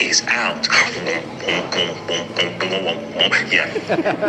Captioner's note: imitates beats; all laugh